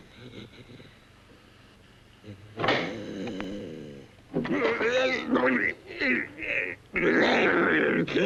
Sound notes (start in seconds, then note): 0.0 strange breathing sound; 2.6 lock pops; 4.5 inhuman growling & grunting sounds